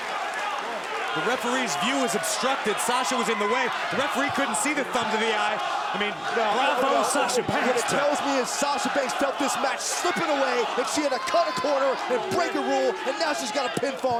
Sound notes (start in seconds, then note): 2.9 crowd cheering; 3.8 crowd chatter